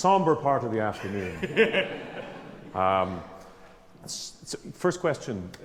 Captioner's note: laughing